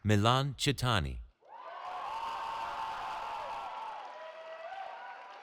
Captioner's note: cheering